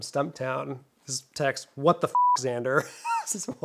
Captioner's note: beep; chuckles